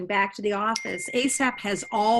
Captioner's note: phone notification rings